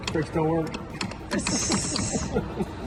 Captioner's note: laughs